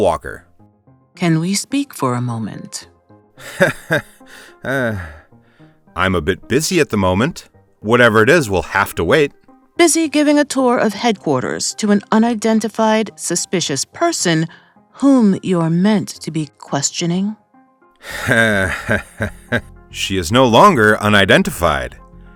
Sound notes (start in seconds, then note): 6.4 awkward laugh; 18.0 awkward, annoyed laugh